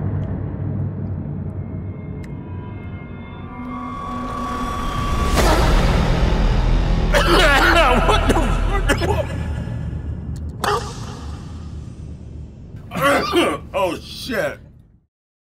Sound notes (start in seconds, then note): 5.4 cough; 12.9 cough